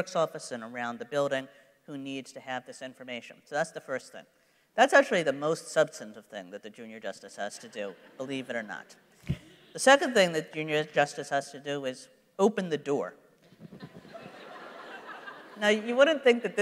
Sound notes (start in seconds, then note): 13.7 laughter